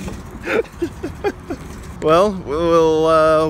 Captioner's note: laughs